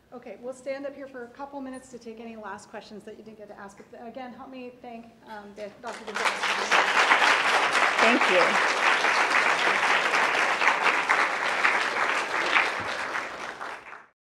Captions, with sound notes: OK, we'll stand up here for a couple minutes to take any last questions that you didn't get to ask. Again help me thank Dr. Gonzalez. [APPLAUSE] Thank you.